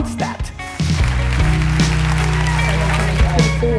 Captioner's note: applause